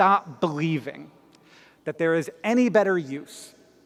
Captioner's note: none